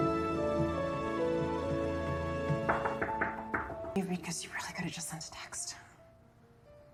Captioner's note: knockcking